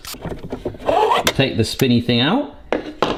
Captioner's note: plastic scratching